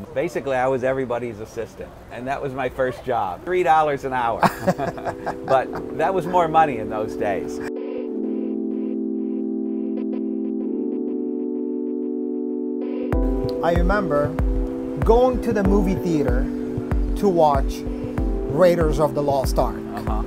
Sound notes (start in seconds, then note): 4.4 both chuckle; 7.7 gentle music